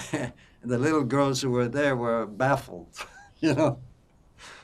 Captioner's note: laughing